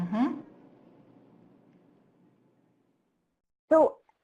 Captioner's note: silence